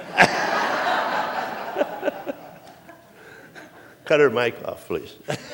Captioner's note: laughter